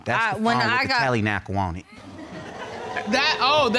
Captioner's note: audience laughing